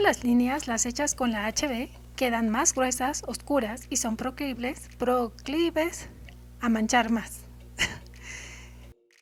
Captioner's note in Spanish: Risas